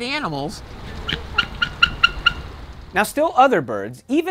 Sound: eagle chirps

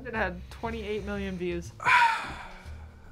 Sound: sighs

